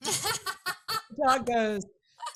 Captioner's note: laughing